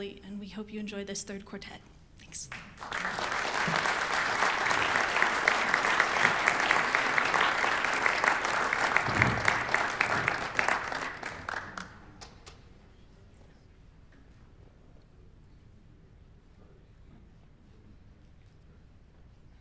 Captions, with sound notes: we hope you enjoy this third quartet. Thanks. [Applause]